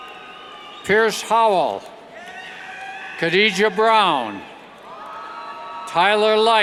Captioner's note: cheers